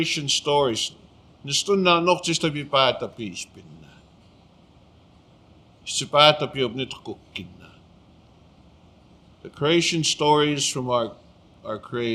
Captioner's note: speaking Blackfoot